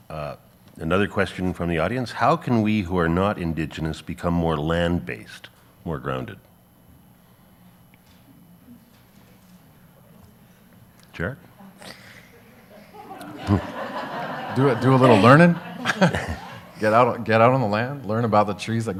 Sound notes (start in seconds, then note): 12.3 audience laughs